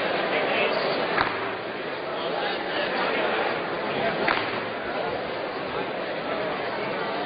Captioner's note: gavel sound